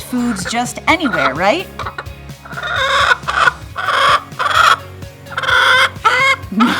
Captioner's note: Henryka bawks loudly